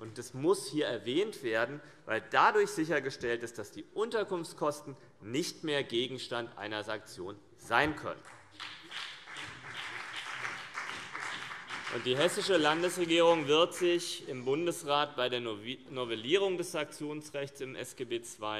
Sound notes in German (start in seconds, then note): 8.2 Beifall BÜNDNIS 90/DIE GRÜNEN und vereinzelt CDU